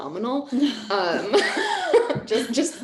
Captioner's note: laughing